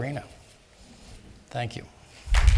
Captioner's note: applause